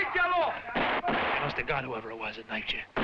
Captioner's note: guns firing